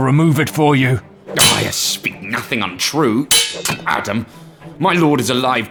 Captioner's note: swords Calsh; swords Clash